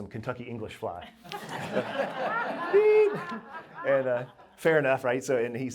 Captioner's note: laughter